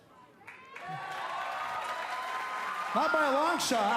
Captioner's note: cheers & applause